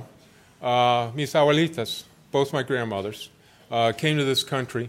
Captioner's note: foreign language